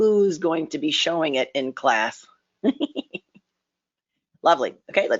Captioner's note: laughs